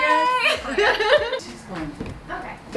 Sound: laughter

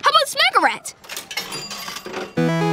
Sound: dinging

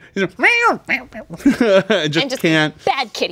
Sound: mews

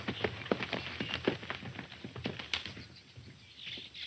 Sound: birds chirping; hooves clopping

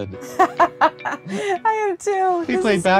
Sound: laughing

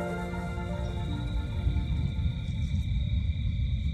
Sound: insects trilling

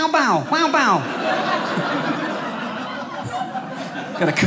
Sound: audience laughing

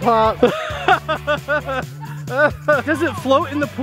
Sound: laughing

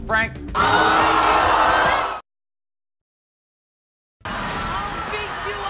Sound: crowd reacting

